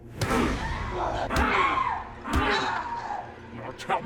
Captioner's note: Linda screaming; kicks thudding